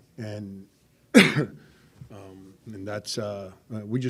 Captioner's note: coughs